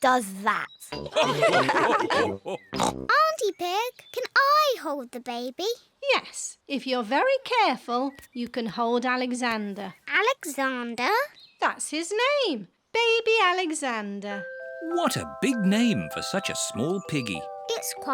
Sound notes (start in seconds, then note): 1.0 all laugh